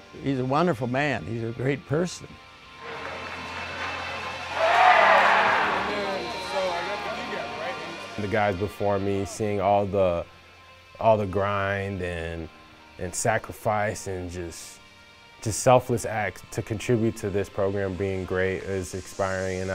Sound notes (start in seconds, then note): 4.5 fans cheering